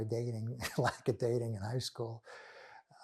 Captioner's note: laughing